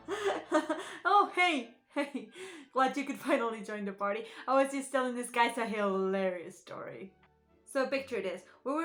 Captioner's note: laugh